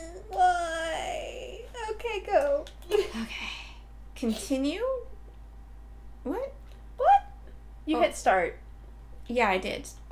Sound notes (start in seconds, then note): 3.2 sighing